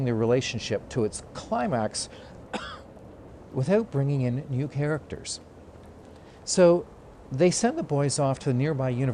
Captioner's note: cough